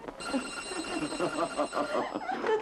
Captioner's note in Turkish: telefon çalar